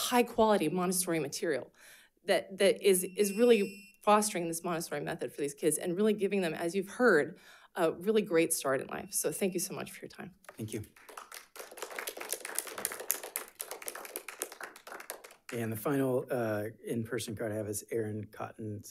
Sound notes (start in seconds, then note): 10.5 audience applauds